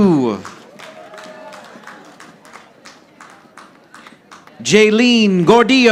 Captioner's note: audience applauding